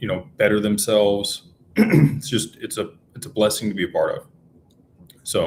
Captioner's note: clears throat